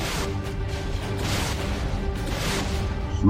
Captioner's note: Exoderm crackles; lasers blasting; Exoderm crackles